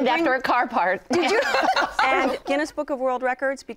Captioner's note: laughing